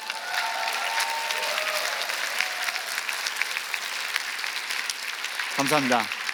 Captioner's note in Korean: 박수